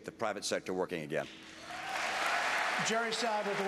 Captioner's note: applause